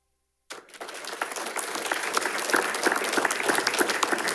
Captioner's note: audience applauding